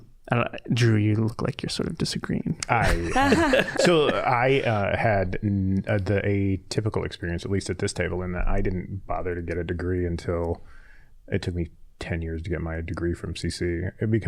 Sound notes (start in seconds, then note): 2.8 all laughing